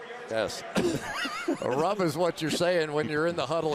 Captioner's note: laughter